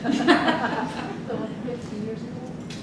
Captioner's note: group laughs